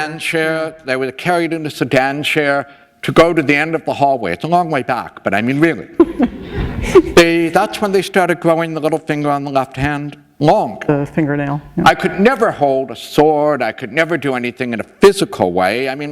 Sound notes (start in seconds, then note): 5.9 laughter